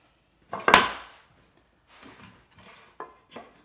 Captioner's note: wood thuds